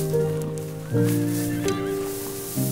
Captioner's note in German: Entferntes Wiehern